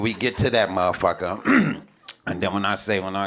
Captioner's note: throat clears